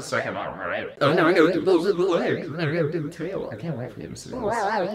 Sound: pat

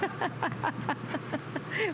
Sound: laughter

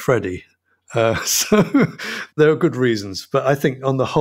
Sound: chuckles

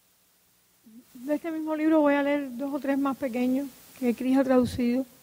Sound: speaking in Spanish

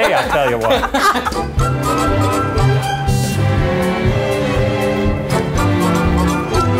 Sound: laughing; cheery music

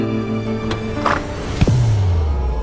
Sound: doors rattling

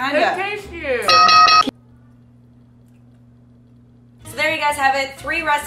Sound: bell ringing

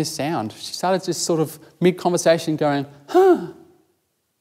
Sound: sighs

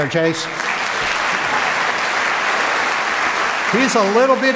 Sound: applause

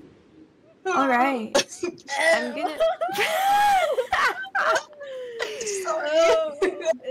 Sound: grunting noises

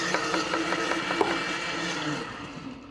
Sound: blender stops

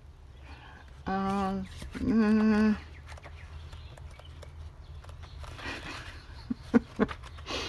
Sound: laughs

